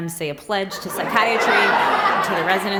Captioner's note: laughter